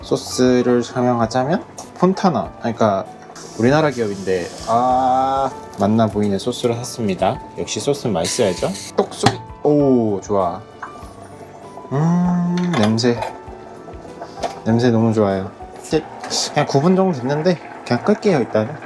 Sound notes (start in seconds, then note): 9.2 pop!